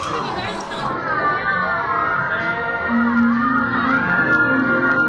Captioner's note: speaking Chinese; riders shouting